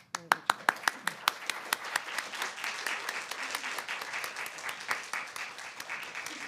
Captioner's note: applause